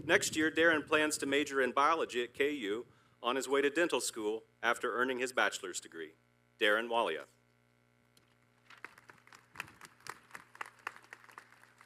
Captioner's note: applause